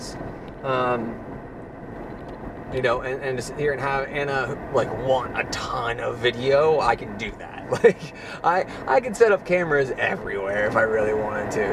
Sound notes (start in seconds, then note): 7.6 laughs